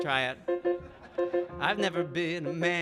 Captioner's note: audience laughing